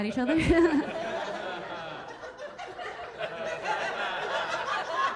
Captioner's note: audience laughing; Keira chuckling